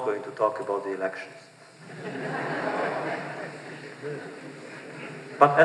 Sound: laughter

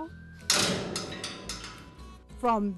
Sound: door clangs loudly

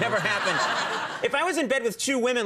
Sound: audience laughing

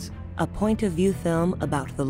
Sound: voiceover

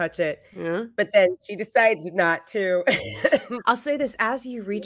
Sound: laughs

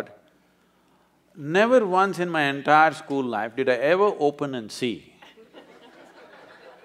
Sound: laughter

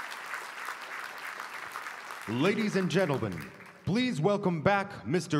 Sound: applause

